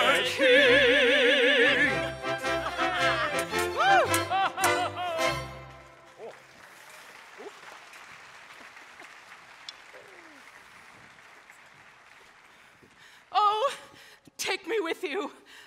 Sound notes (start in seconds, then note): 2.2 all laughing; 6.4 audience applauding